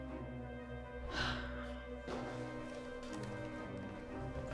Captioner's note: Claire sighs